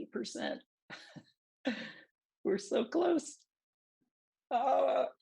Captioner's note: laughter